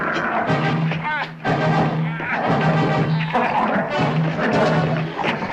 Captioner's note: dog growling; David groaning